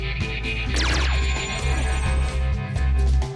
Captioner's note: laser sfx